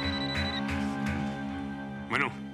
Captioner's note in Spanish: Suena el celular